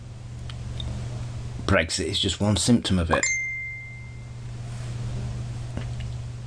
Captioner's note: smartphone pings